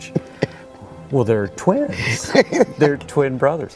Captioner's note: laughing